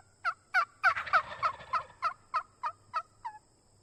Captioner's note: turkey calling